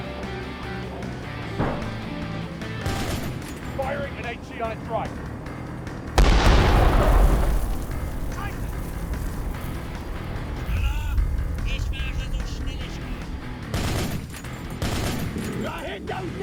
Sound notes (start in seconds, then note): 6.2 missile explodes; 8.6 driver shouting in German; 13.9 gunshots